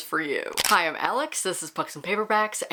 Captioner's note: camera shutter